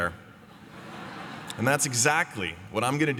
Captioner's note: laughter